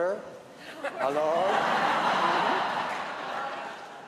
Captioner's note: laughter